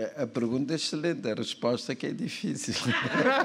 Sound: speaking portuguese

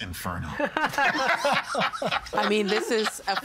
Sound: all laughing

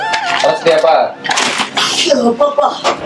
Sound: sneezes

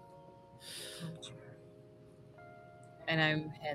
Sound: quietly

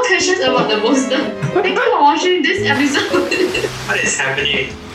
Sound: laughs

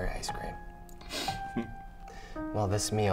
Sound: sniffling

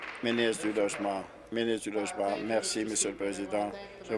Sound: applause

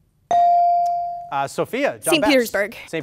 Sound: ding

